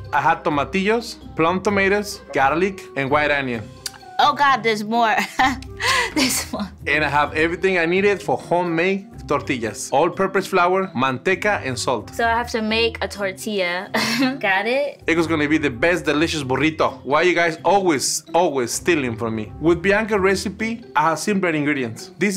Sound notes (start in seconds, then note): 5.2 laughing; 13.9 laughing